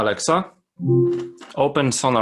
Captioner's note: electronic beep